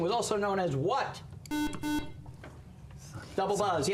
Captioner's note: buzzer